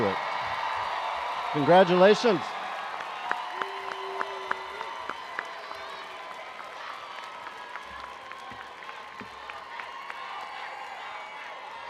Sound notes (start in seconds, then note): 0.2 attendees cheering and applauding; 7.2 students chanting